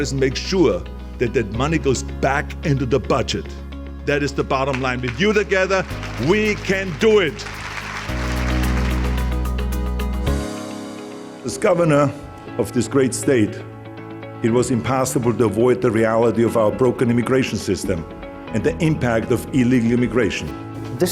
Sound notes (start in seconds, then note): 7.3 group applauding; 9.2 upbeat music